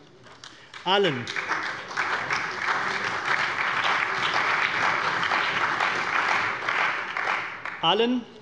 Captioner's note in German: Beifall bei der CDU, der SPD, dem BÜNDNIS 90/DIE GRÜNEN und der FDP